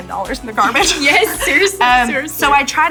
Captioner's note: laughing